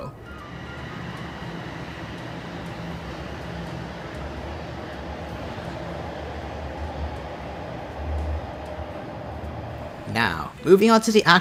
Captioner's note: 🔊 Toronto Rocket Departing